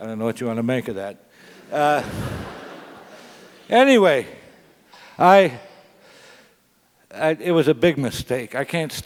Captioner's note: laugh